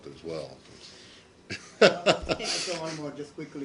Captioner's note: laughter